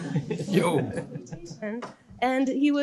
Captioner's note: laughter